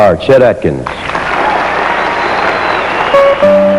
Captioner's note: yelling and applause